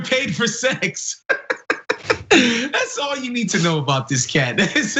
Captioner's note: laugh